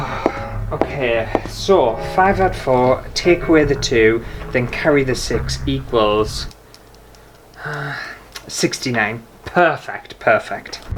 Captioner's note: foot Steps/Laboratory Humming; sigh